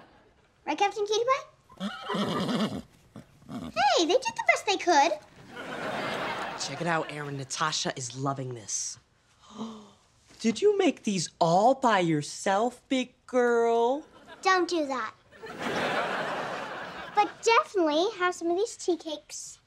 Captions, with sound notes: Right, Captain Cutie? [neighing] Hey, they did the best they could. Check it out, Erin, Natasha is loving this. [gasping] Did you make these all by yourself, big girl? Don't do that. But definitely have some of these tea cakes.